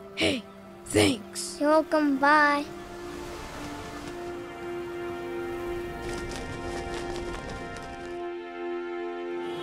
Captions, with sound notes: Hey... thanks. You're welcome. Bye. [seashore sounds] [wind blowing / cape flapping]